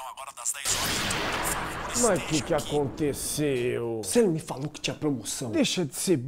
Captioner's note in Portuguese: explosão